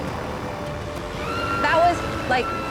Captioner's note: shouting